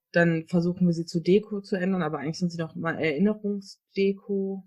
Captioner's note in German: none